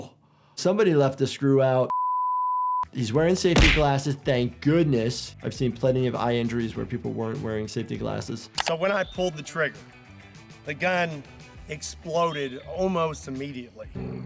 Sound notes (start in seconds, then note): 1.9 production beep